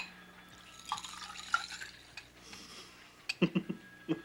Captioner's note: water pouring; Casey laughing